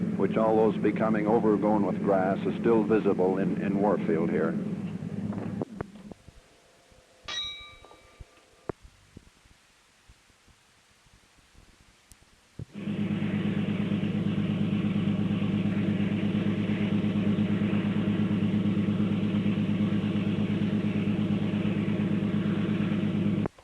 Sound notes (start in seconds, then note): 7.2 bell Sound; 12.5 sound of train moving